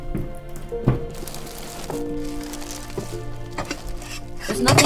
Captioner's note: paper rustling